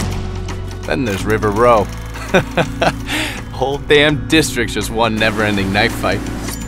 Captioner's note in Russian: смешок